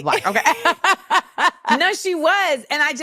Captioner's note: laughs